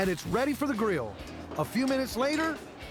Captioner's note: steam blowing